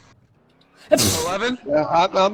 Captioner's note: sneeze